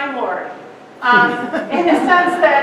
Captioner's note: audience laughing